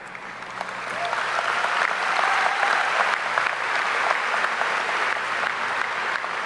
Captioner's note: audience applauding; audience cheering